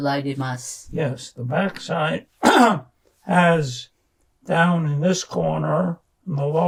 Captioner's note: clears throat